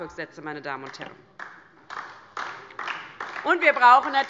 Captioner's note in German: Beifall DIE LINKE